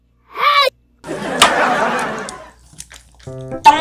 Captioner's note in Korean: 웃음